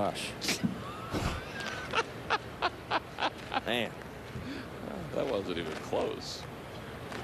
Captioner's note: laughter